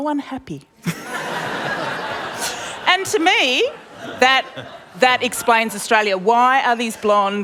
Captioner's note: laughter